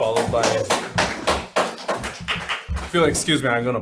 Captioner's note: people clapping